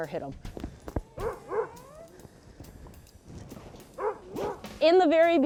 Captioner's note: upbeat jazz music; sled dogs barking